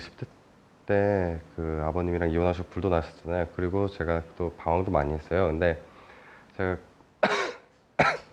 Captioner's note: cough